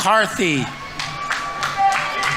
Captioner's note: audience applauding